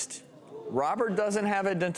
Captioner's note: audience members gasp